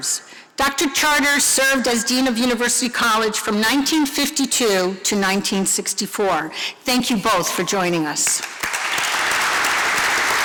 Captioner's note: applause